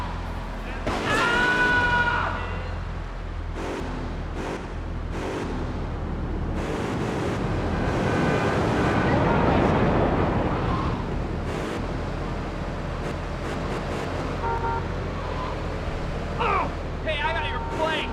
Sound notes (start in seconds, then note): 0.9 screaming; 3.7 engine revving